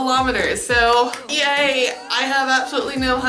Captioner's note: claps